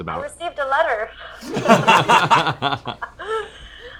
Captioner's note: laughter